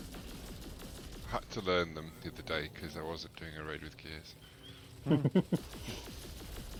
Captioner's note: laughter